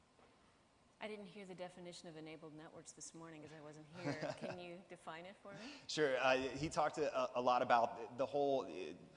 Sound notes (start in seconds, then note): 3.9 chuckles